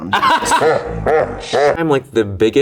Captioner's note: Bowen chuckles monstrously